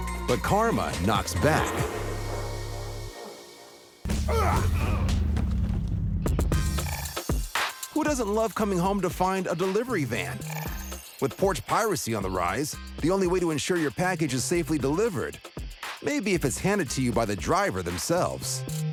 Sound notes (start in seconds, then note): 4.1 fighting grunts